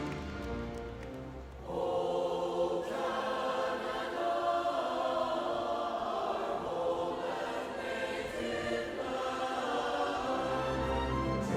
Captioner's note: applause